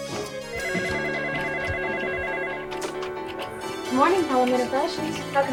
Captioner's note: telephone ringing